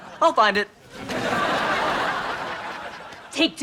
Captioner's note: laughs